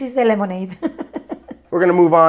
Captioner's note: laughs